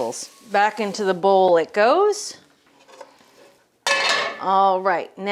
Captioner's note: pan clanks